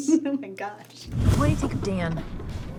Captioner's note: laughs; whoosh